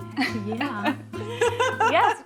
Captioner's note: both laugh